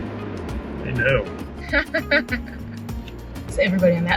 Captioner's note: laughing